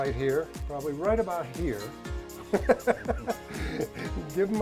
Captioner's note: laughs